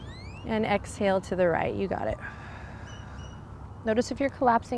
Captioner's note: blows out breath